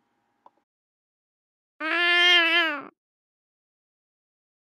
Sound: cat meowing

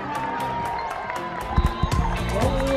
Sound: cheering

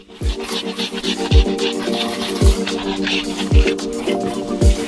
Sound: tool scraping

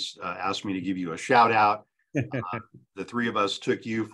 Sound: chuckles

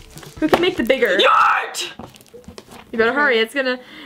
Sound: screaming

